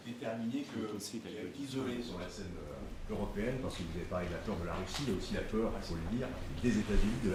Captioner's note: speaks French